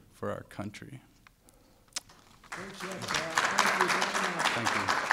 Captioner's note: applause